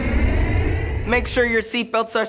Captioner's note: airplane soaring